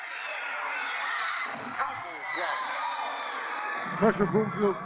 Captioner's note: audience shouting loudly